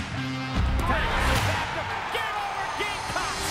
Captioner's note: cheering